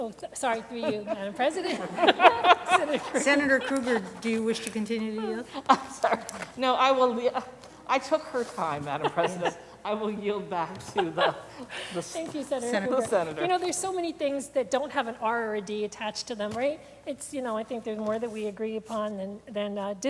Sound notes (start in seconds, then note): 2.8 laughter